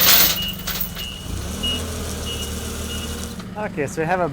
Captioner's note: chain rattling